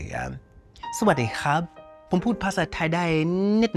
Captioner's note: speaking Thai